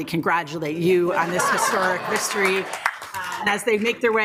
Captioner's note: group laughs